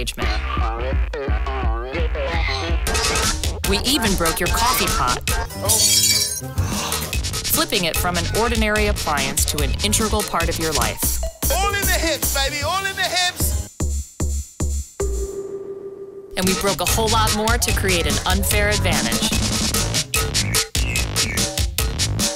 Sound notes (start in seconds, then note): 0.2 dramatic techno music; 3.0 upbeat music; 5.6 shattering glass; 13.6 upbeat techno music; 19.0 upbeat techno music